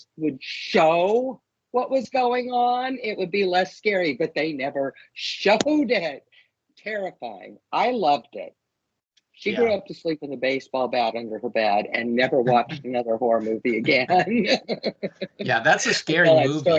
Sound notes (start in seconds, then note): 13.6 laughing